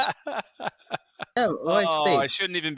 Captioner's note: laughing